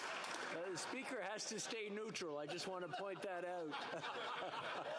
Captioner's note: some Applause